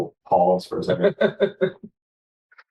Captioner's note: laughter